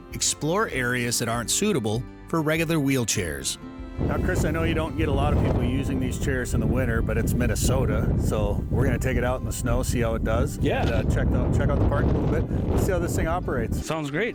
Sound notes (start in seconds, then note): 10.7 wind ripping